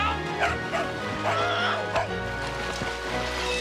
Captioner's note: Patch barking